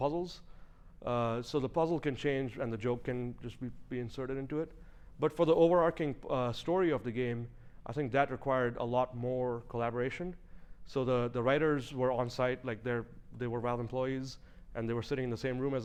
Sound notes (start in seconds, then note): none